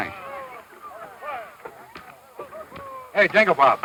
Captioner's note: men yelling